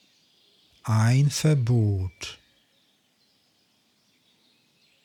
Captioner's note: german